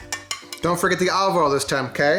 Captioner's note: taps glass